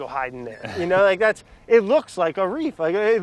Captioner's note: laughs